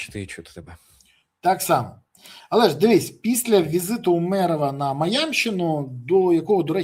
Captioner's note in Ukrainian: сопіння